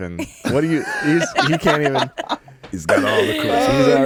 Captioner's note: laughing